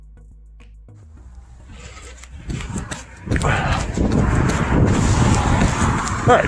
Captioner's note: running. Breathing heavily. Background traffic noises